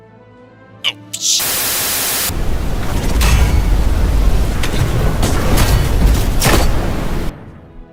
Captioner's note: static